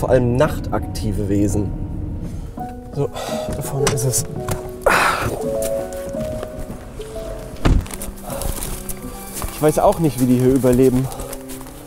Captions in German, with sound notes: und vor allem nachtaktive Wesen. (Ruhige Musik) So, da vorne ist es. (Ächzen) (Beunruhigende Musik) Ich weiß auch nicht, wie die hier überleben.